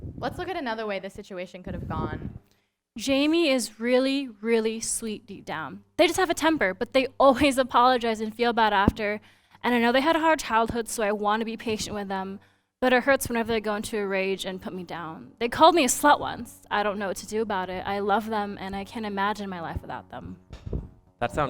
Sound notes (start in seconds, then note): none